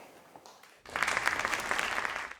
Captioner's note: crowd applauding